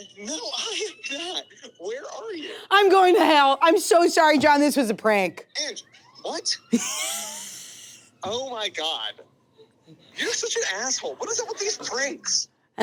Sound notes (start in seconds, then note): 6.7 laughing